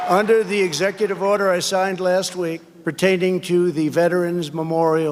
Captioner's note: cheers and applause